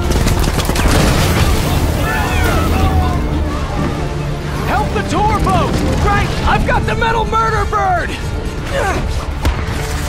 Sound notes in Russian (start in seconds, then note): 1.3 Крики толпы